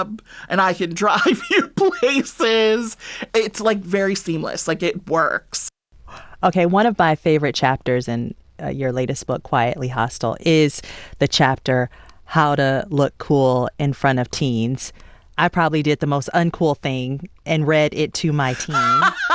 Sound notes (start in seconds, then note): 1.1 laughter